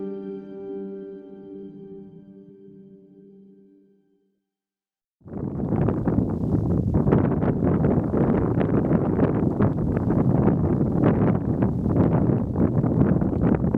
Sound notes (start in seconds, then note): 5.2 wind blowing